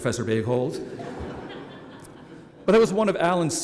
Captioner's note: laughter